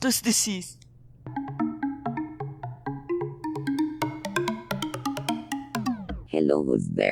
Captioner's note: phone ringing